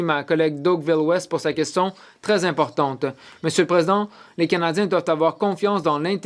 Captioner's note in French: voix de l'interprète